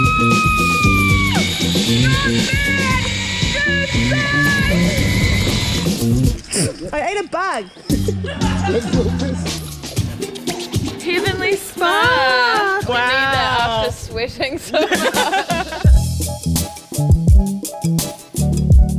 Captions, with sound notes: I ate a bug (Laughs) Heavenly Spa Wow We need that after sweating so much